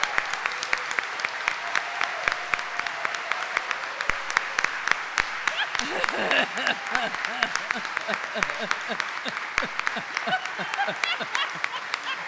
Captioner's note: audience cheering and applauding